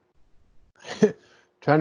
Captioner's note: chuckles